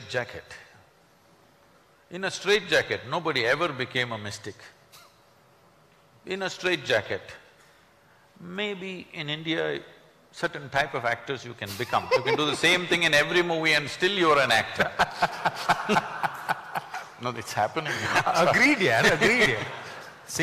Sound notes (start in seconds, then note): 11.8 speaker laughs; 14.9 laughter